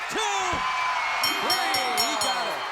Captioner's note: bell ringing